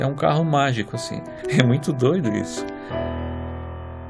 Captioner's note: chuckles